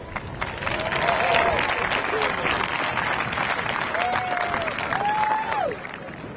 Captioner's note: crowd applauding; crowd cheering